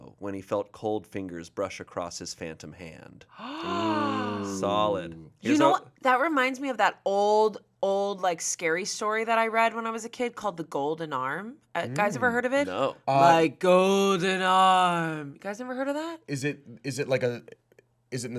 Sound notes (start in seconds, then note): 3.4 gasps